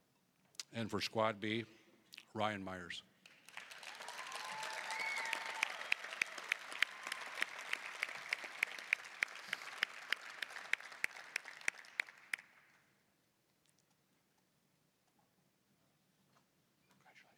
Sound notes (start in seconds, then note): 3.2 applause, cheering